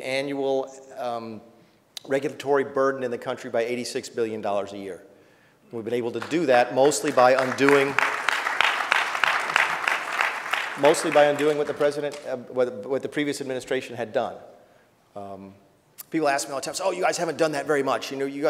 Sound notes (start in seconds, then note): 9.9 applause